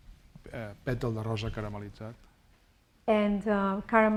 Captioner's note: speaking spanish